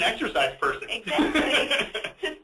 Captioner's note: laughs